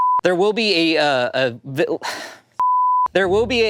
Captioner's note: beep; beep